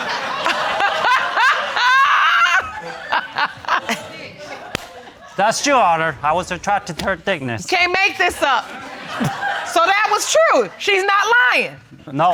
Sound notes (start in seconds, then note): 0.0 audience laughing; 1.6 laughing